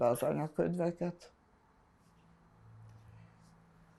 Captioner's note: pauses 11 seconds